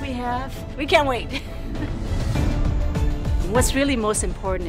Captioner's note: chuckling